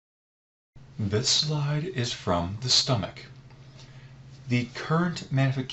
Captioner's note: voiceover